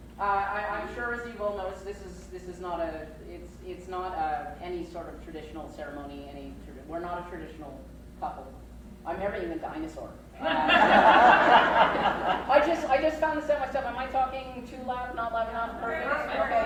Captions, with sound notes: Uh I I'm sure you've all noticed this is, this is not a, it it's not any sort of traditional ceremony I mean, we're not a traditional couple. I'm marrying a dinosaur! (crowd laughs) I Just found this out myself. Am I talking too loud, not loud enough, perfect?